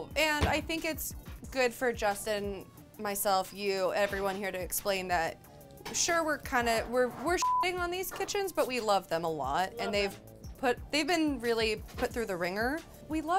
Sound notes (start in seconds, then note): 7.4 beep